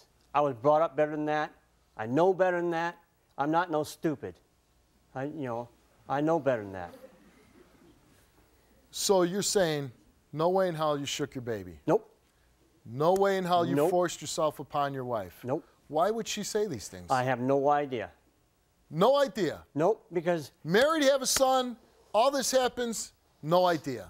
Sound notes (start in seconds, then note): 6.8 Steve laughs